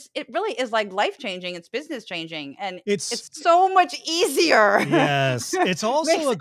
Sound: laugh

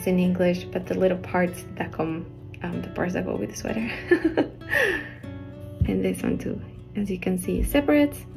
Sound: nervous laugh

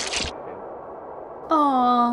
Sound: splats

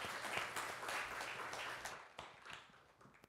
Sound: applause

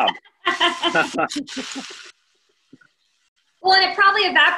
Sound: both laugh

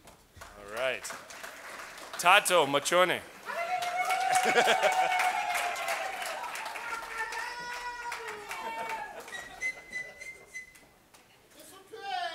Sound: cheers and Applause

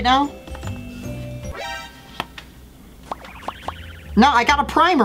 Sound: alarm sound

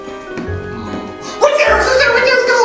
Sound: ghost sighs

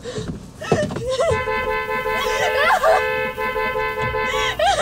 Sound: horn honking

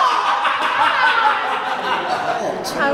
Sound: laughs

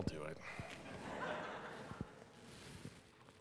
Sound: laughter

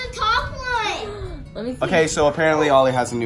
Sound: gasps

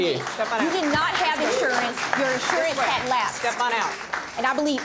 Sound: audience clapping

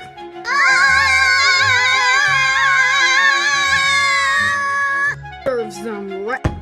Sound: Book and Paper scream in pain

